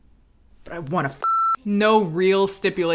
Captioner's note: beep